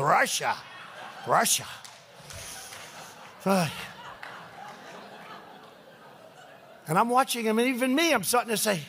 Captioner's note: laughter